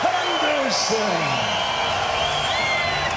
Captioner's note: crowd cheering